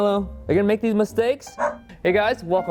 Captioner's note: barking